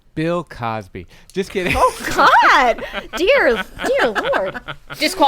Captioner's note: mortified laughter